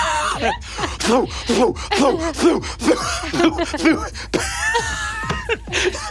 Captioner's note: Brennan mimics bass thumping; Brennan laughing